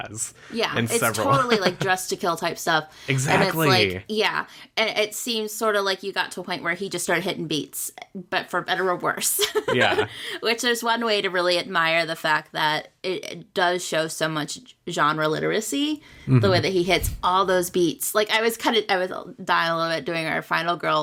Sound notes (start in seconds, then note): 9.6 laughs